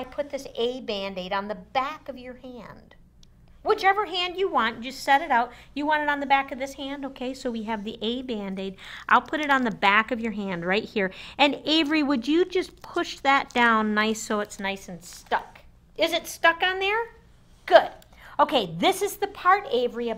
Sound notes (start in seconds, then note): none